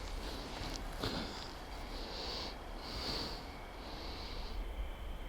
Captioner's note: panting